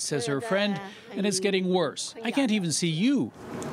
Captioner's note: speaking chinese